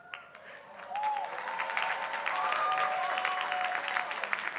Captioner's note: crowd applauding